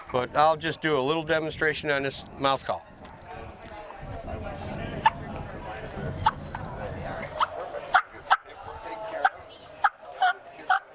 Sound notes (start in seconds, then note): 3.6 mouth clucks; 3.6 people chatter indistinctly